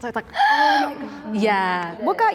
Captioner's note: gasps